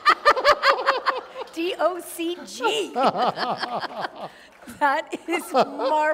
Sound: laughter

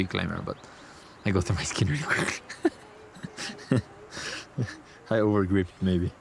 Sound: chuckles

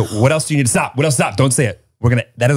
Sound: gasps

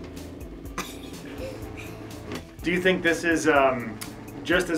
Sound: chuckles

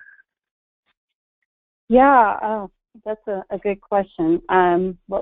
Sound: voiceover

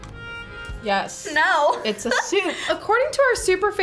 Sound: laughs

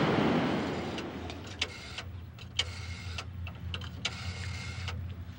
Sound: dialing phone

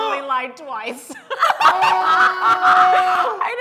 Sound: laughing

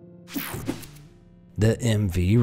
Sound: slide swooshing

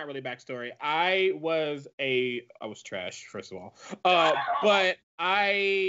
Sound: laughs

